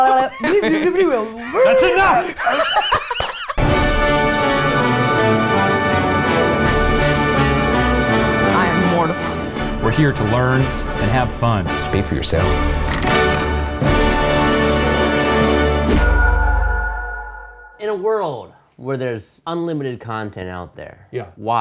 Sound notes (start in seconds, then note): 3.4 all laughing; 4.7 tense dramatic music; 13.4 tense dramatic music